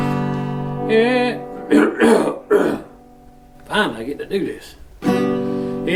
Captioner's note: clearing throat